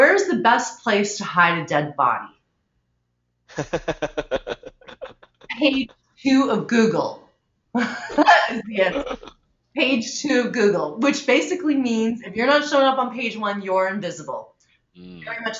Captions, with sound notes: where's the best place to hide a dead body? (laughing) Page two of Google. (laughing) Page two of Google which basically means if you're not showing up on page one, you're invisible.